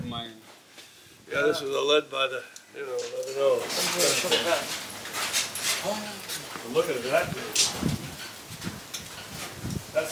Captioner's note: group chatting